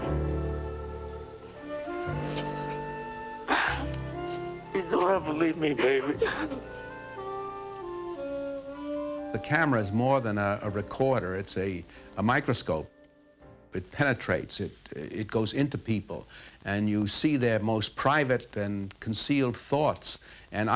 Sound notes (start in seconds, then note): 3.4 gasps; 7.3 sobs